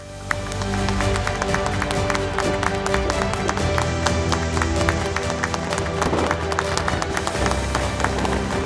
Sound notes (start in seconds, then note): 0.0 upbeat music; 0.1 speakers applaud